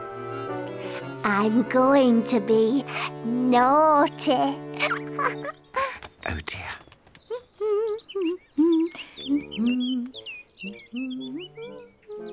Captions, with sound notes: Shh. I'm going to be... naughty. Oh, dear. (hums)